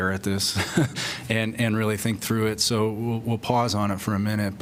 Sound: laughter

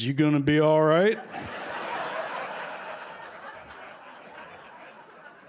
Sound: laughter

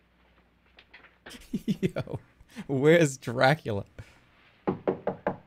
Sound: laughing

